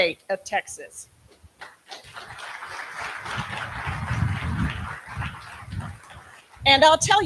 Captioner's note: applause